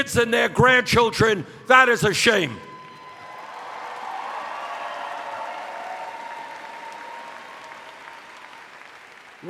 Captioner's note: cheers